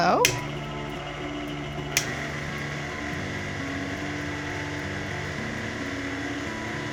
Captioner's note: mixer whirring; button clicks